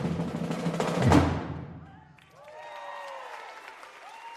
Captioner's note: cheers and applause